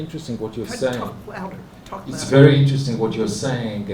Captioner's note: speaking hebrew